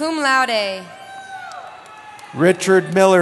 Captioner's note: cheering